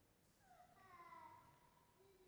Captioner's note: none